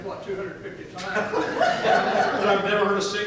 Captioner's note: audience laughs